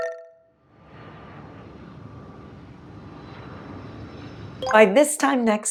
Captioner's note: airplane engine sound